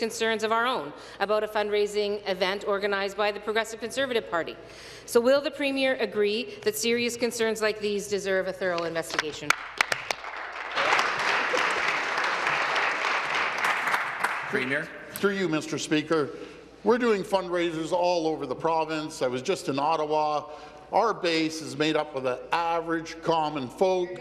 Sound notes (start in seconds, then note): 13.3 applause